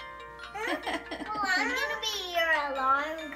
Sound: laughing

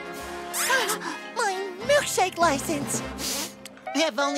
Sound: sniffling

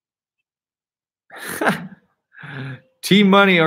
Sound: laughing

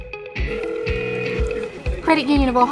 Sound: phone ringing

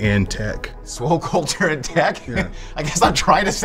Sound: laughs

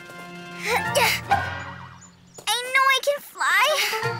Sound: Flutterwings grunts

